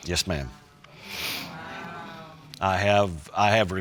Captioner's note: audience muttering